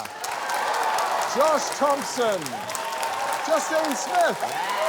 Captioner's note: cheering, applause